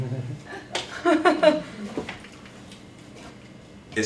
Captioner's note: laughter